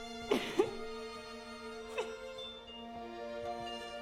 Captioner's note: Nelly crying